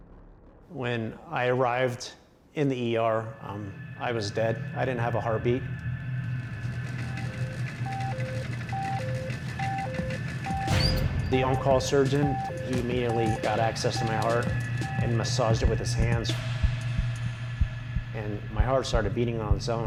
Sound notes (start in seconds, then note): 6.6 alarm beeping; 16.1 heart beating